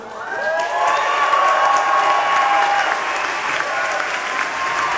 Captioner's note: audience cheering and applauding